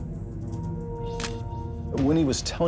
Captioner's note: camera shutter click